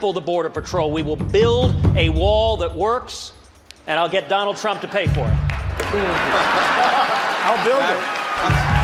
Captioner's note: laughs